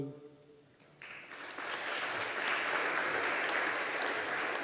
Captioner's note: audience applauding